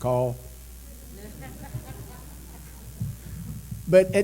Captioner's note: laughter